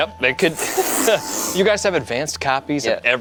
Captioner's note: exhales